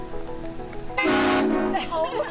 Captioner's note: train horn honking on truck